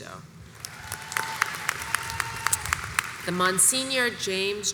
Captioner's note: audience applauds and cheers